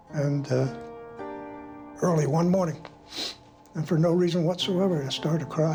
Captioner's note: sniffles